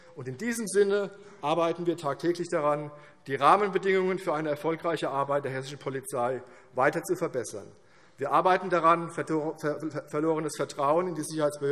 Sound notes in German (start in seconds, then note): none